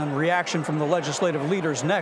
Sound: none

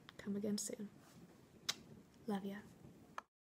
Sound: kiss

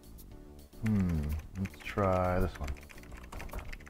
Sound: keyboard typing

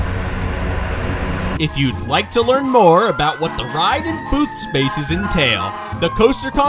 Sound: sirens in the distance

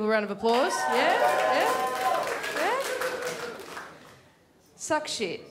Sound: clapping and cheers

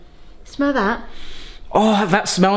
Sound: inhales

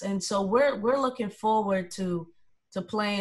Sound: none

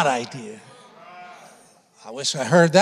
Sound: congregation affirming

